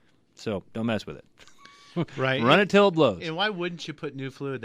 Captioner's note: laughs